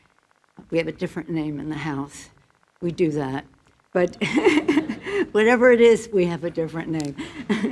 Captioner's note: laughter